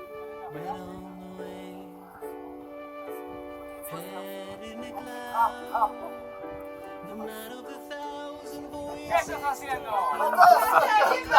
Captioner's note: laughter